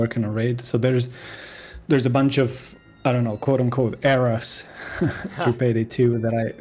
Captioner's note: laughs